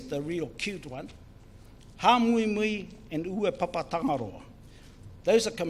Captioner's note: speaks in foreign language